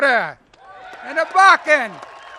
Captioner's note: applause